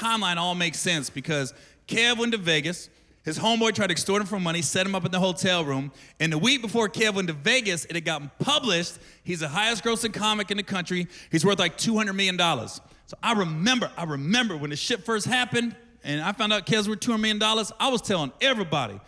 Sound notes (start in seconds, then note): none